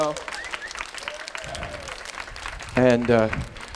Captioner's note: applause, cheering